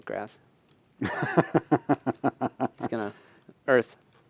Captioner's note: laughter